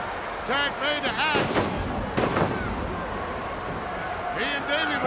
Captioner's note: ground slamming; ground slamming